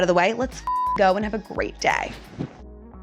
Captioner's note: beep